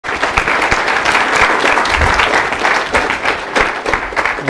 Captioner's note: applause